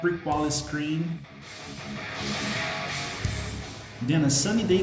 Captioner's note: engines revving, cars noises